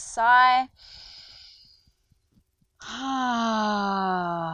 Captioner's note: inhales deeply